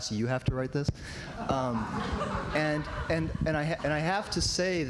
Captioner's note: laughter